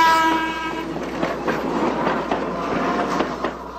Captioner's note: train whirs